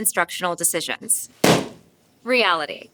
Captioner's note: balloon pops